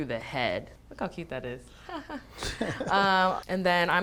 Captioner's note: laughs